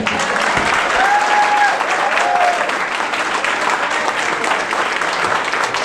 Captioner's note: audience cheering and clapping